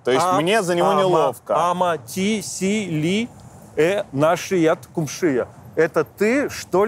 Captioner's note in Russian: говорит на болгарском